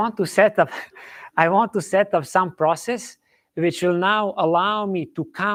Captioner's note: chuckles